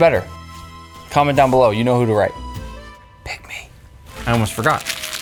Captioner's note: whispers